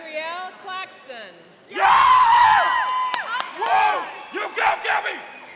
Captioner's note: cheering and applauding